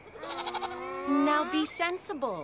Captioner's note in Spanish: Gimiendo